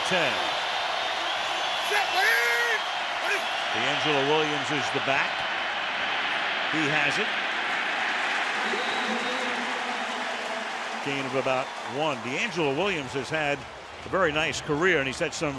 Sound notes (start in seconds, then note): 8.6 whistle blows; 10.2 pa announcement